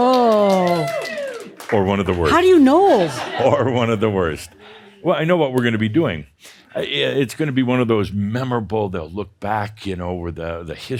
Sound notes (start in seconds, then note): 0.0 some applause; 3.0 more chuckles